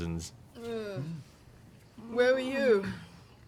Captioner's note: yawns